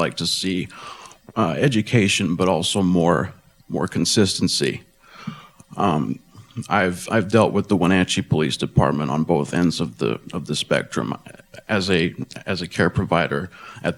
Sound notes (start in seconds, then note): none